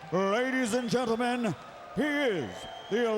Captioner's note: crowd clamoring